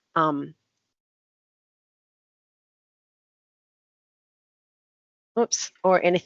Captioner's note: audio on mute